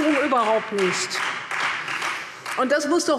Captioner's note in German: Beifall Freie Demokraten